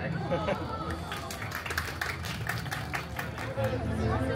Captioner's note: guests applauding